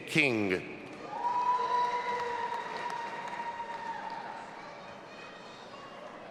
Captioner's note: audience applauding and cheering